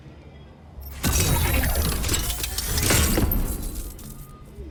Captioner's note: machine whirring